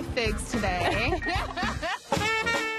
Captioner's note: both laugh; jazz music playing